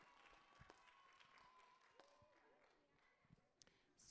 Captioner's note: applause